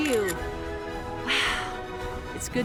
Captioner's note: sighs